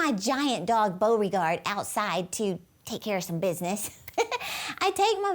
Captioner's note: laughs